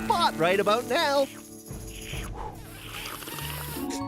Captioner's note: slurping